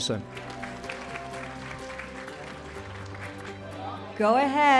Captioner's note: audience claps